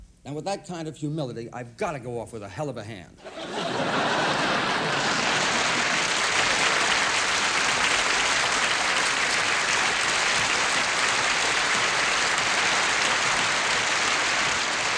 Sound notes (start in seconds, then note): 3.2 laughter; 5.2 applause